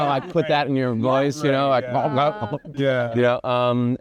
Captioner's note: gargles